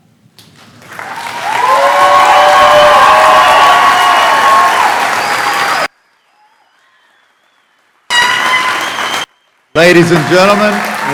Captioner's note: clappping